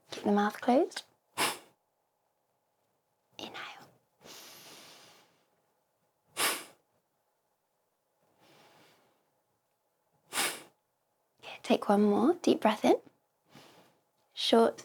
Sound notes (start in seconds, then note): 4.2 exhale; 10.3 exhale